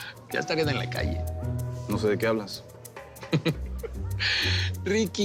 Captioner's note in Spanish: Risas